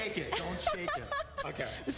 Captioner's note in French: laughter